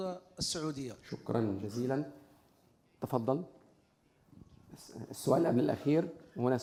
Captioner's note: moderator speaking in foreign language